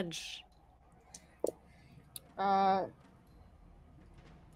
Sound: dice clatter

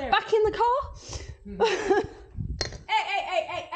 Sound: nervous laughter

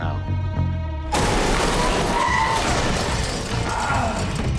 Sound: vehicle crashing; brakes squeal; action music plays

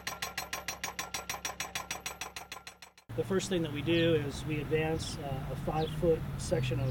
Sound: hammering sound

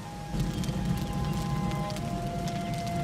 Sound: fire roaring

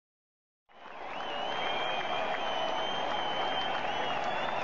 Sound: applause

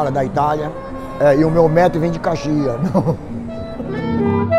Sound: laughs

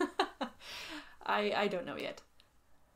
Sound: laughs

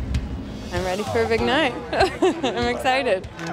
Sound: laughs

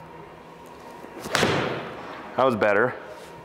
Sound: ball thuds

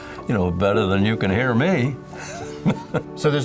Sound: chuckling

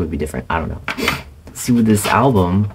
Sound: sniff

